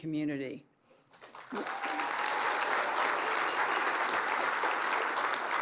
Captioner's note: applause